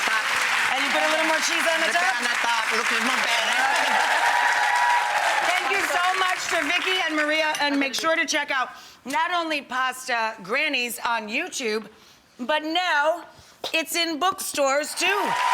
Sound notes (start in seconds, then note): 4.2 crowd cheering; 15.0 crowd cheering